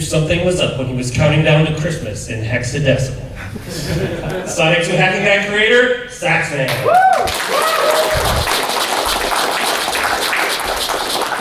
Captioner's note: applause